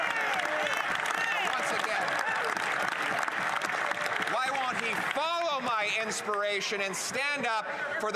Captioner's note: some Applause